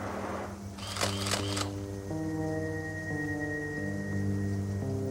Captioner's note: camera shutter clicking